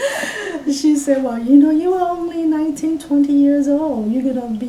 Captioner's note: all laugh